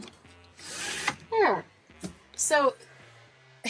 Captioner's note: blind whirring